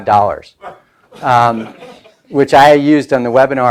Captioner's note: laughing